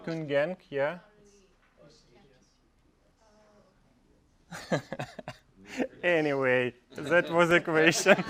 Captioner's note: laugh; laugh